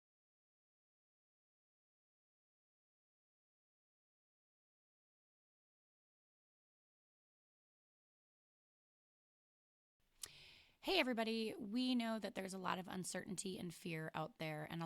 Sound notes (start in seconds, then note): 0.0 silence